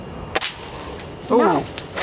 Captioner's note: airgun firing